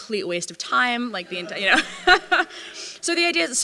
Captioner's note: laughter